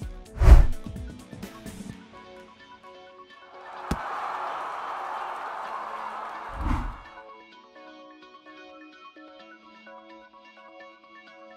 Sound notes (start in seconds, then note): 3.6 applause